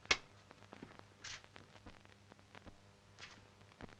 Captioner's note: door opens